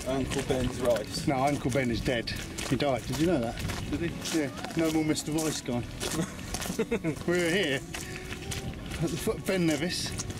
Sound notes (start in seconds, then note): 6.0 laughs